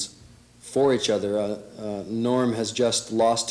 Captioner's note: none